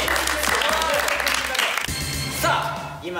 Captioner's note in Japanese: 拍手